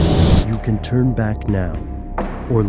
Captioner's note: voiceover